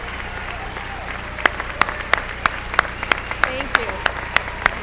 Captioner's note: applause